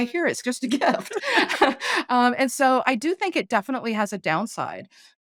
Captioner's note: laughing